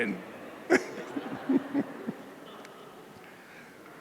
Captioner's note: chuckles